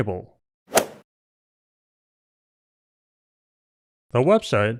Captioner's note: golf swing sound effect